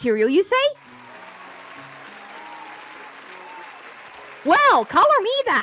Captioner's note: audience applauding